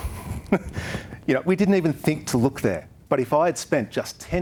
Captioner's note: chuckles